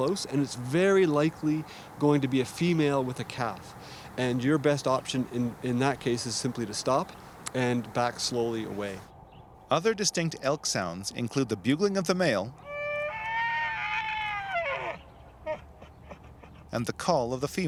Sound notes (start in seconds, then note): 12.5 elk bugling